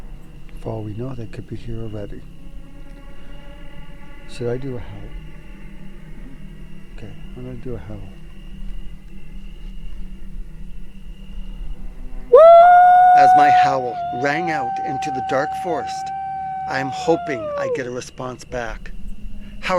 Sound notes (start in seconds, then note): 12.3 howling